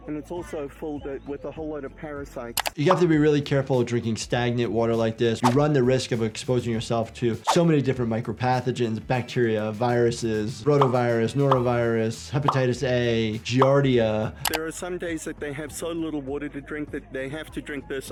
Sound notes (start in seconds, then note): 5.4 screen swooshing; 10.7 pathogens popping